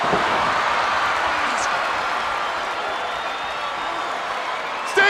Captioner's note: Paul exclaiming; crowd cheering